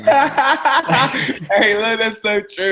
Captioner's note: laughing